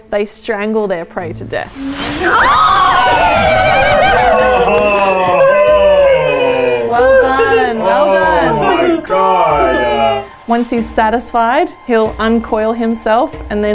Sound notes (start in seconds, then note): 1.9 screaming; 9.2 crowd